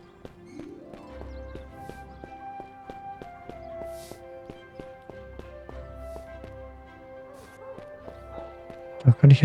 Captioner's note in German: schnauben